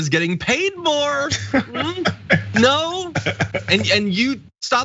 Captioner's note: laugh